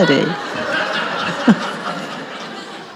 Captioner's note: audience laughs